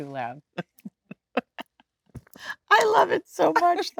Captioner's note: Jennifer laughing